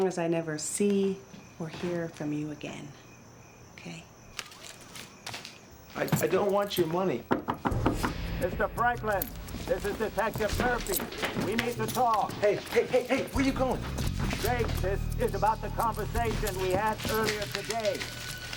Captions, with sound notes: as long as I never see or hear from you again, okay? - I don't want your money. (knocking on door) - Mr. Franklin? This is Detective Murphy, we need to talk. - Hey, hey, hey! Where are you going? - Jake, this is about the conversation we had earlier today.